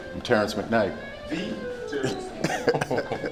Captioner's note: chuckles